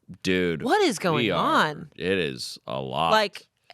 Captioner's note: none